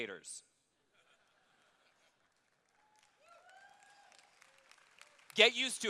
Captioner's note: applause